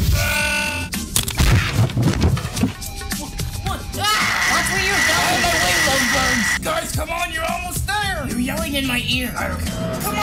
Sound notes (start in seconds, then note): 4.0 screaming; 4.0 screaming continues